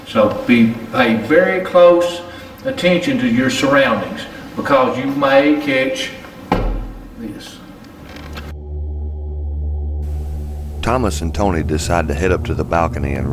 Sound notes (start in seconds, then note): 6.5 thump; 8.4 haunting music